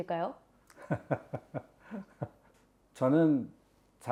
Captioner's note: laughter